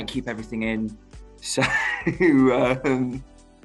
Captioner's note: laughs